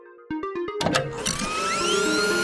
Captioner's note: button clicking; fan whirring